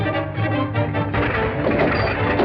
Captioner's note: metal clattering; body thuds